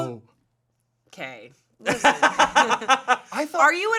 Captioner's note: laughing